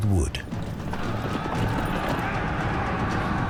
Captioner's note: soldiers shouting